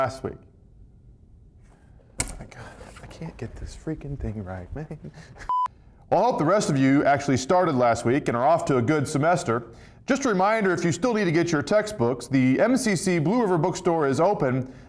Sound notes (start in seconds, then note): 5.4 beep